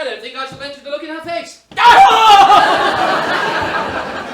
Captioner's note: both scream